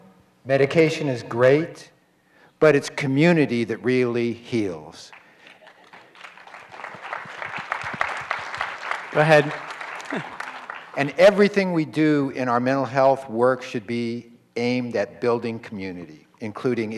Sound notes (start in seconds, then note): 5.1 applause